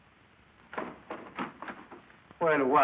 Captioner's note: door closes